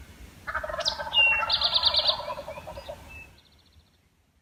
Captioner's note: turkey gobbling